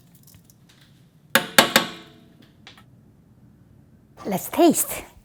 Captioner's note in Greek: χτύπημα